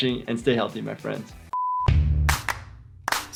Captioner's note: beeping; upbeat music